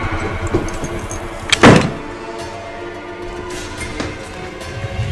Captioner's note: door slamming; dramatic music